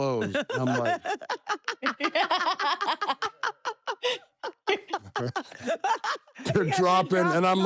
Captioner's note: laugh